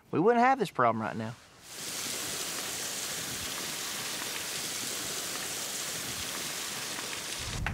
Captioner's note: water gushes, slowly stops; claps